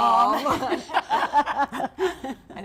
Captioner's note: laughter